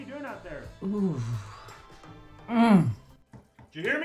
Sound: more excited noises

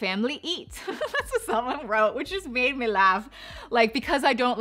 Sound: laughs

